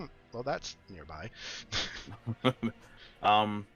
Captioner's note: chuckles